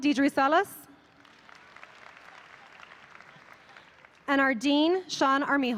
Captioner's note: audience applauding